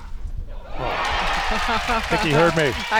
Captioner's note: crowd applauds